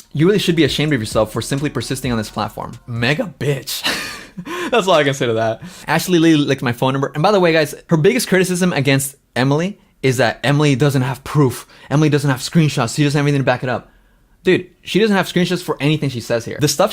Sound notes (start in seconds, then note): 3.7 laughs